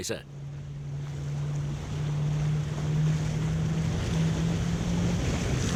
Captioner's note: yacht speeding on water